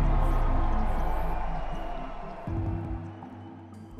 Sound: people cheering

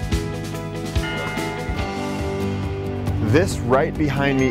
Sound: church bell

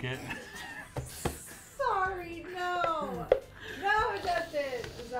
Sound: laughs

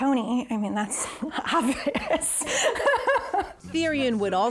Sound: laughing

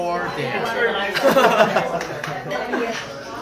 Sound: laughing

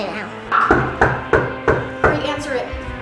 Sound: knocking on door

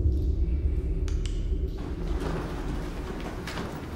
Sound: click

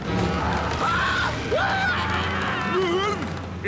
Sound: Squidward screaming

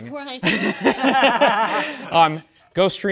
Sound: participants laughing

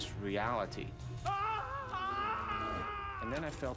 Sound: screaming

